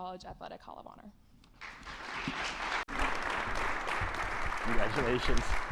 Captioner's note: attendees clapping